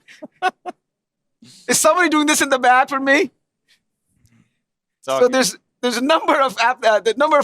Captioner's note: laughter